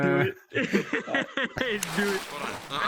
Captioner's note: laughing